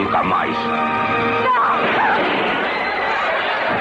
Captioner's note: clamoring; gunshot